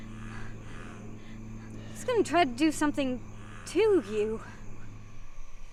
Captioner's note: panting